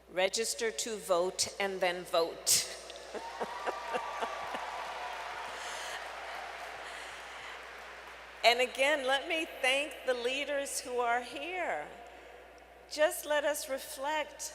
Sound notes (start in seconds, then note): 3.0 laughs; 3.1 applause